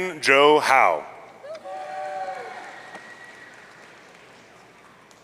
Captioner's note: audience cheering